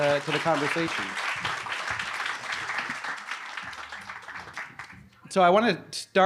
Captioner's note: audience applauding